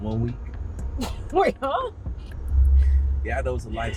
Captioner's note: laughing